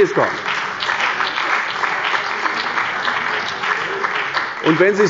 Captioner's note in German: Beifall bei der CDU und dem BÜNDNIS 90/DIE GRÜNEN